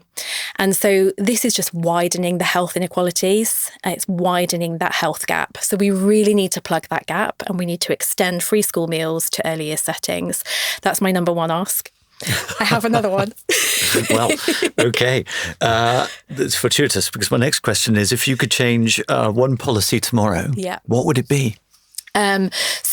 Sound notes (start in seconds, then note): 12.2 laughs